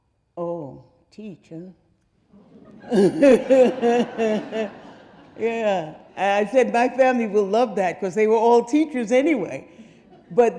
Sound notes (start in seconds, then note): 2.4 audience laughing; 2.4 Faith laughing